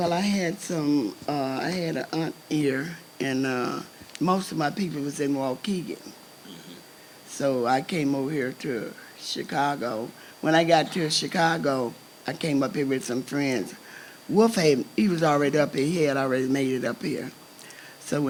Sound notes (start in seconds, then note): none